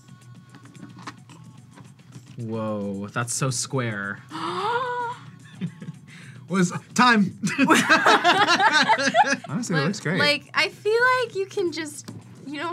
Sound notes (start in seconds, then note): 4.3 gasps; 4.9 laughs; 7.4 both laugh